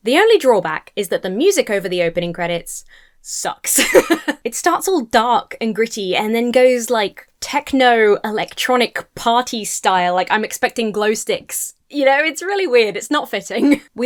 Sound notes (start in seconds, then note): 3.7 laughs